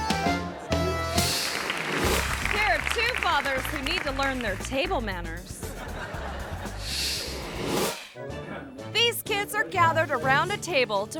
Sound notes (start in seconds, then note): 1.1 audience applauds; 5.6 audience laughs